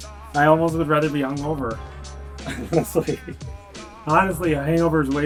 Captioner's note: laughs